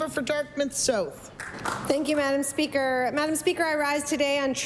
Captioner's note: applause